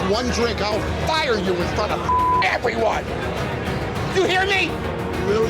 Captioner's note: beep